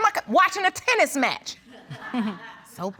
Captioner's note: chuckles